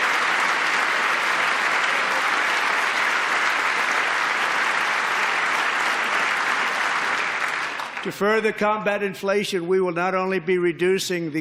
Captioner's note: applause